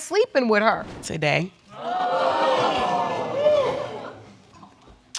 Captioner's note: audience exclaiming